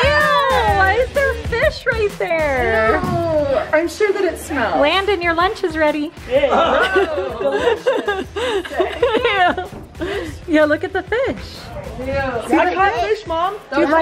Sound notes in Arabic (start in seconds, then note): 6.4 يضحك